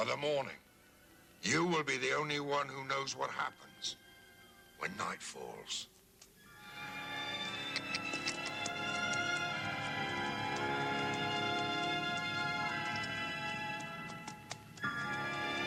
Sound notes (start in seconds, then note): 5.5 Bosk clicking; 6.5 dramatic music